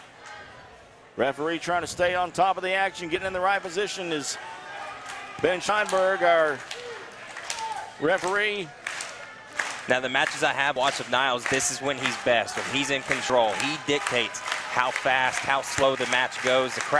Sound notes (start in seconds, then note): 8.9 crowd clapping in rhythm